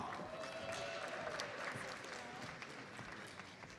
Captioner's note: audience applauds